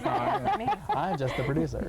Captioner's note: laughing